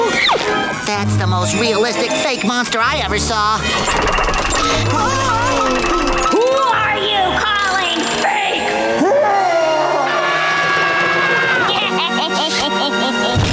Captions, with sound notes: That's the most realistic fake monster I ever saw. Whoa! Who are you calling fake? [roaring] [screaming] [evil laugh]